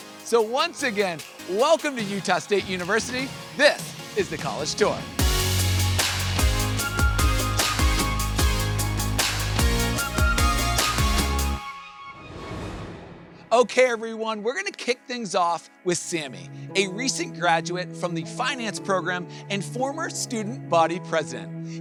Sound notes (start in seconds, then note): 5.4 bright music continues; 12.0 logo whooshes